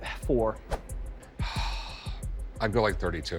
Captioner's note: sighs